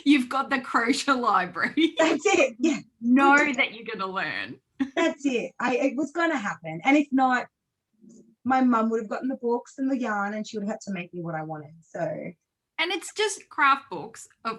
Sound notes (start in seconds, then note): 4.8 laughs